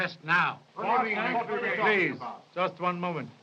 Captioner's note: arguing